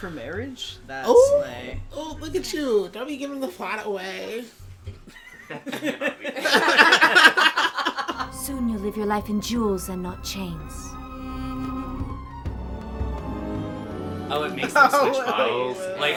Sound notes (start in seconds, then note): 5.0 laughter